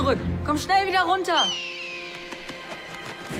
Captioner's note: eagle screeching; tense music